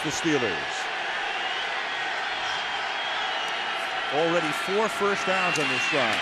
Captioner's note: crowd cheering